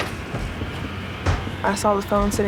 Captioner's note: banging